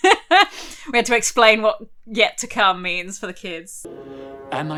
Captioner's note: laughs